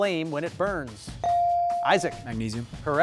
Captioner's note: buzzer dings